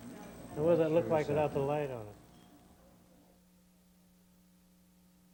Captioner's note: none